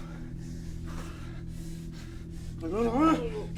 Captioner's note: breathes heavily